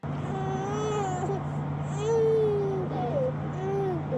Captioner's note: crying